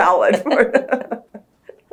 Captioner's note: laughter